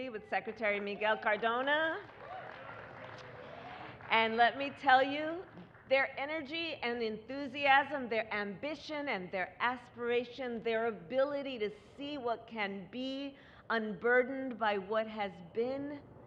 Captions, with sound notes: with Secretary Miguel Cardona. (Applause.) And let me tell you, their energy and enthusiasm, their ambition and their aspiration, their ability to see what can be, unburdened by what has been,